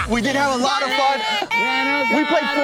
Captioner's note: cheer